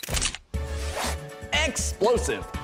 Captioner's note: camera click